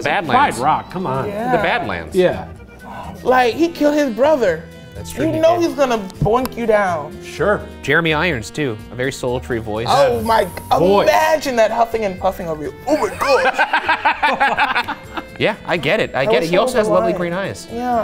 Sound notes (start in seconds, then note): 12.9 laughs